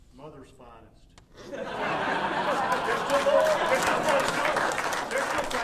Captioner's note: audience laughing